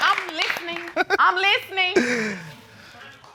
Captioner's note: snickers